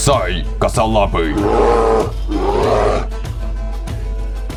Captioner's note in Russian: Яростно-одобрительный рёв